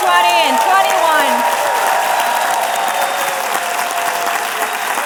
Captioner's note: applause